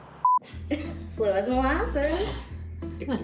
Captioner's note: laughing